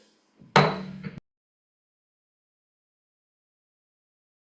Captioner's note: gavel clanks